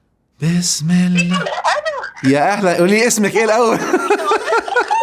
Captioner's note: laughs!